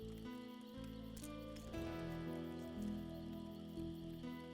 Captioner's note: stones clack